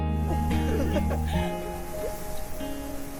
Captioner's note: laughing